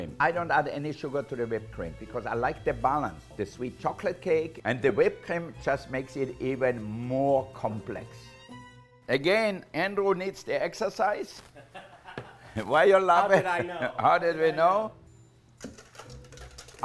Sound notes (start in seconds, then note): 11.5 laughs